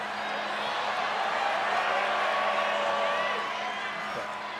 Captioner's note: crowd cheering